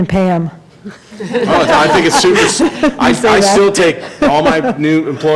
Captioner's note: laughter